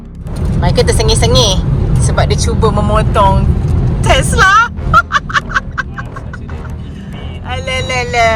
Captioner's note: laugh